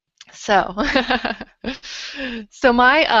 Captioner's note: laughs